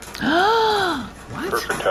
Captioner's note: gasps